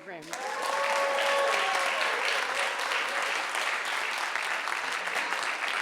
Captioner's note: audience cheering and applauding